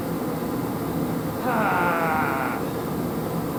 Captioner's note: haah